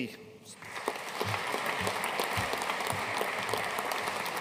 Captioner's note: audience applauding